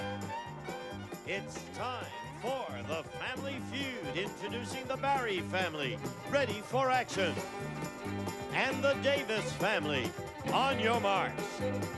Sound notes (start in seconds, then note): none